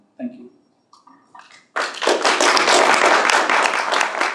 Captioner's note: applause